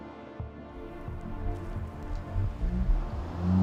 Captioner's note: car in the distance